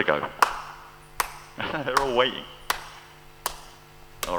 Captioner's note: laughs